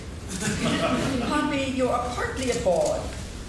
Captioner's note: laughing